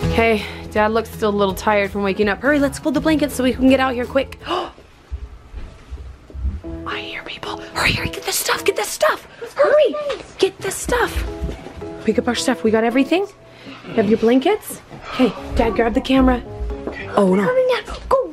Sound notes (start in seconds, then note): 7.4 gasps